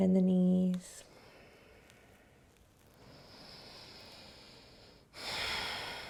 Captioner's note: breathing